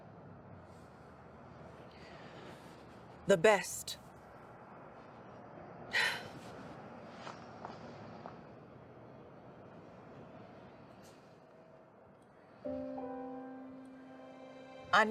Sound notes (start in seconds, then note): 5.9 sighs; 7.4 footsteps tapping; 12.4 gentle music